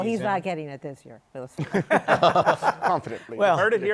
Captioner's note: laughter